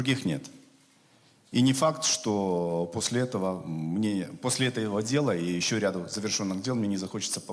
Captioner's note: speaking Russian